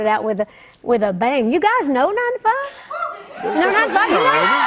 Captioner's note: cheers and applause